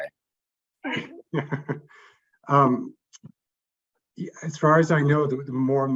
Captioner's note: chuckles